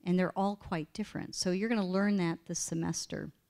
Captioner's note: none